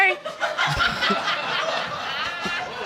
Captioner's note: audience laughing